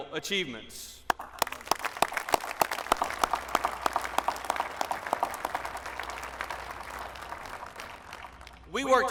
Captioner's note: applause